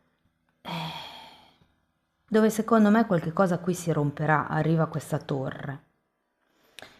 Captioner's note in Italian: sospiri